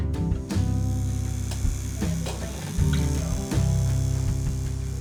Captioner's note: needle buzzes